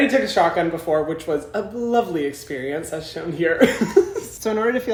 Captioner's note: laughs